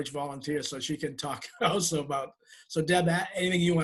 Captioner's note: laughs